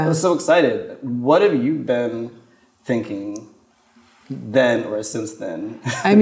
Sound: chuckles

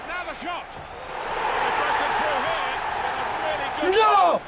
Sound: spectators cheering

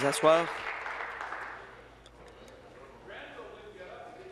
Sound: applause

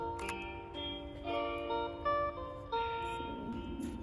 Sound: A camera click

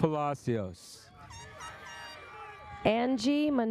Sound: airhorn sounds

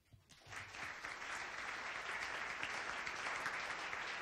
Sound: audience applause

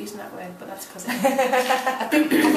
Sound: laughing

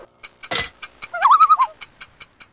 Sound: loon call

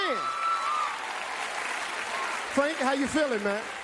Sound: audience applauding

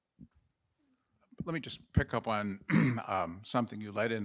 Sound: coughs

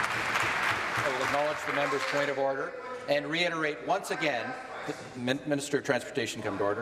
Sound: applause

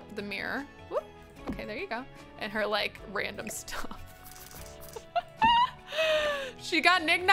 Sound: laughs

